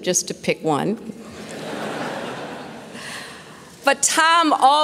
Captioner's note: laughter